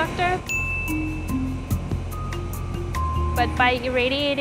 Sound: upbeat tones; ding

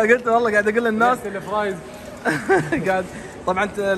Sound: laughs

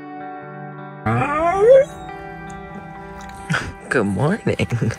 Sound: camper yawns

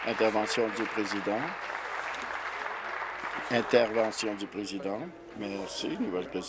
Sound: applause

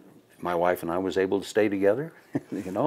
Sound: laughing

